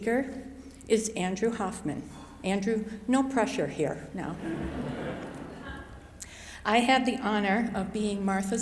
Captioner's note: chuckles